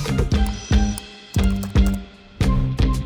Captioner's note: text typing; upbeat music continues